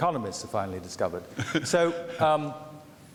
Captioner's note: man chuckles